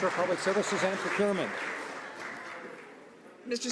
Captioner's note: some Applause